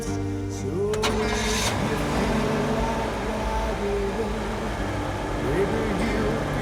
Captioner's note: engine rumbling